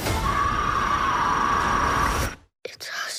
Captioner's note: screaming